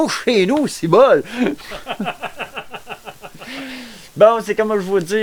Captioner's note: laugh